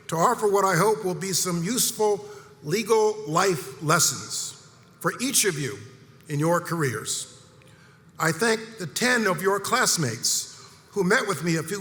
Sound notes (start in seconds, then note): none